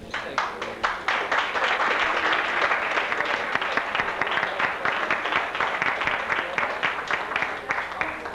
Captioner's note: applause